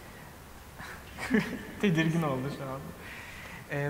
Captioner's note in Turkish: güler